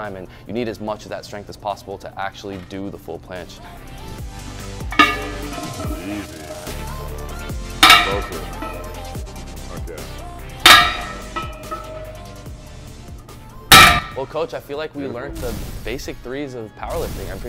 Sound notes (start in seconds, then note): 3.9 upbeat music; 4.8 weights clanging; 10.7 weights banging